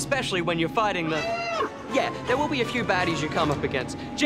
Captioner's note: alarm blares